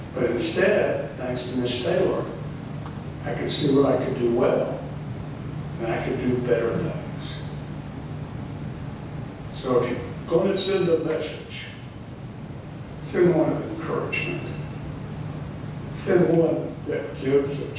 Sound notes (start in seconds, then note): none